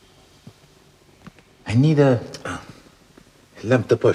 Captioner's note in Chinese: 法语